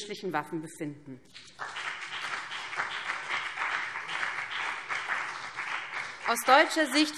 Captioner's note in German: Beifall BÜNDNIS 90/DIE GRÜNEN und CDU